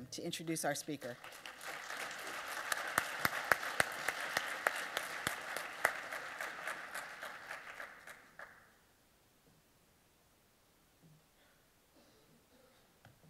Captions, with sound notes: to introduce our speaker. [APPLAUSE]